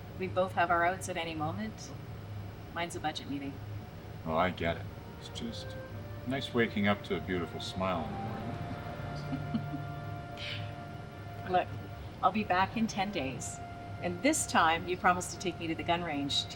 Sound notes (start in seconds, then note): 9.2 chuckles